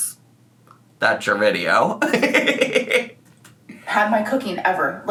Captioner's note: laughs